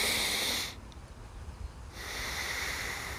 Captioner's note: deep breathing